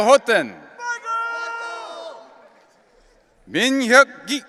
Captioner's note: audience cheering